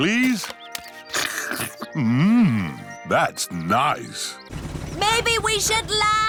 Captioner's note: slurps